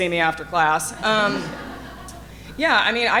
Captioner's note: audience laughing